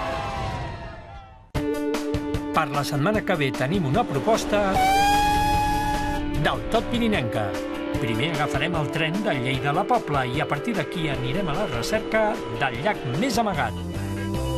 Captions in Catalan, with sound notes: Per la setmana que ve tenim una proposta... (clàxon)...del tot pirinenca. Primer agafarem el tren de Lleida a la Pobla i, a partir d'aquí, anirem a la recerca del llac més amagat.